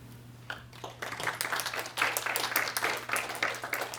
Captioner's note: applause